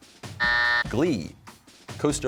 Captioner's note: buzzer